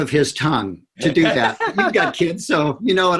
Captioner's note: laughter